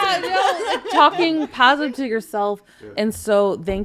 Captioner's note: podcasters laughing